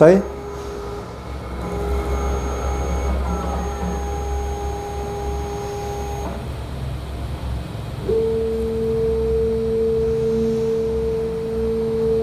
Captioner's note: printer machine noise